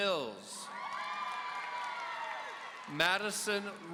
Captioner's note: audience cheering